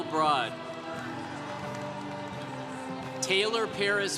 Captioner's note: congregation cheering